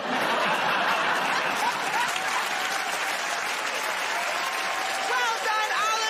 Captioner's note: laughter